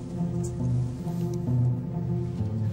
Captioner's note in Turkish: none